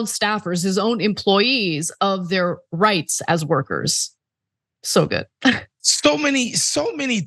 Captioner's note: laugh